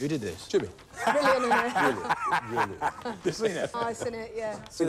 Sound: laughing

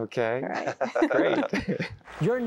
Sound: laughing

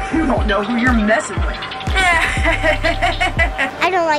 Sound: laughs creepily

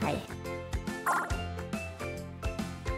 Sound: pinball bouncing sound

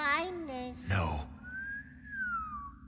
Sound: whistles

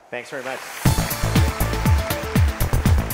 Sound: audience claps; upbeat music

